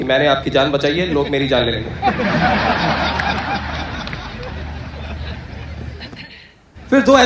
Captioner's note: hysterical Laughter